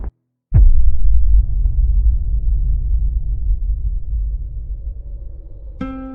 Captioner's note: bass rumble; snowstorm, music fade in